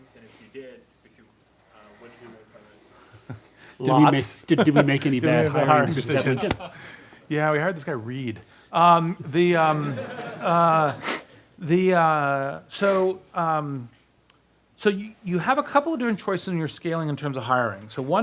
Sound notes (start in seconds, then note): 3.2 laughs; 9.8 class laughs